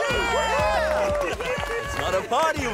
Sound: cheering

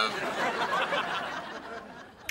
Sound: laughing

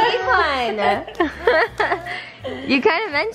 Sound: laughter

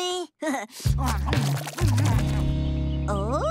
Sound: munching; chuckles

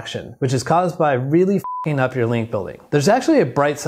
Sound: beep

